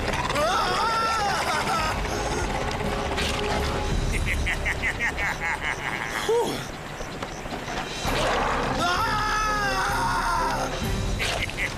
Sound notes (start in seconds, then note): 2.2 snarls; 4.1 giggles; 8.1 roars